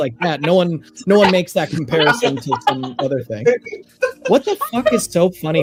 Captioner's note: laughing